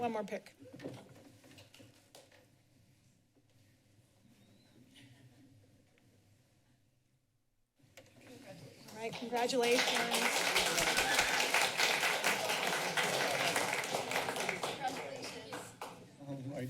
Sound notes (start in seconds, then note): 2.2 silence; 10.9 applauding